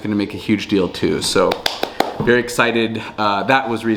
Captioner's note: hands clapping